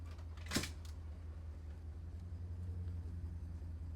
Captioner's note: gurney rattles